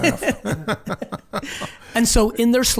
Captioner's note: laughing